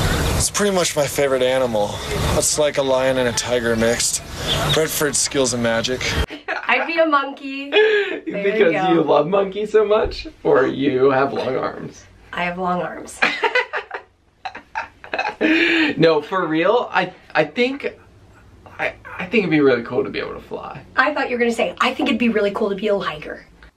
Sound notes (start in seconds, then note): 14.4 laughter